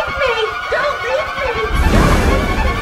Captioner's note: echo